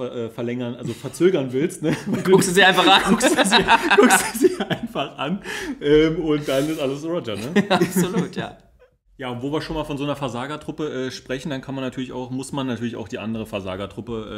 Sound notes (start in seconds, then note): 1.8 laughs